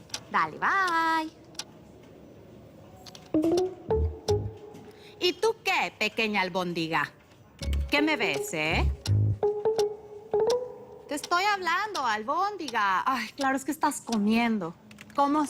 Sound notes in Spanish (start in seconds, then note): 3.4 Sonido al colgar